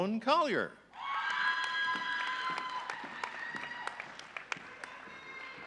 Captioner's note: audience cheering